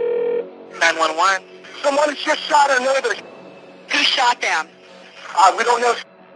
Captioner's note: line ringing